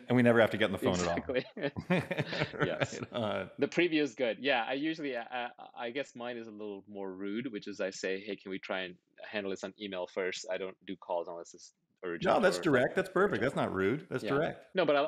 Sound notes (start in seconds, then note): 2.1 laughing